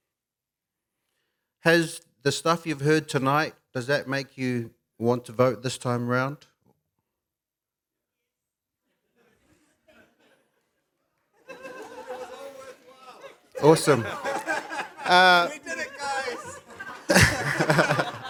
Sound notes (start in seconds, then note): 9.4 murmurs; 11.4 laughter